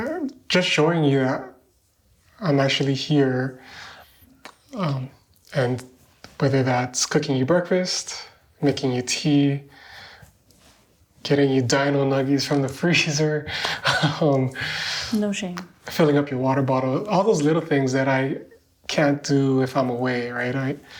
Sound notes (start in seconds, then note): 13.7 laughing